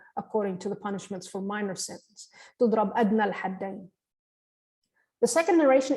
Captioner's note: line in Arabic